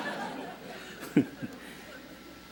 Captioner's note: laughter